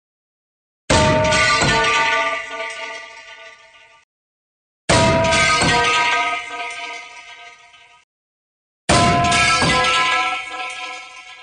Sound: lower Tone Pipe Falling sound

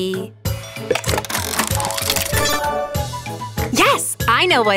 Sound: mechanical whirring

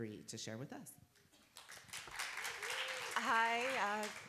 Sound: applause

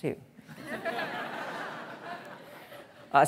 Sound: audience laughing

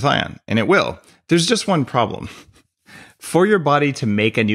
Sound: chuckles

